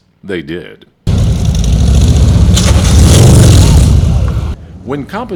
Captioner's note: motorcycle engine revving